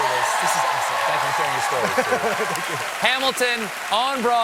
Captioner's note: cheers and applause